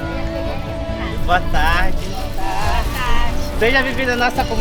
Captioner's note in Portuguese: trilha sonora esperançosa; voz masculina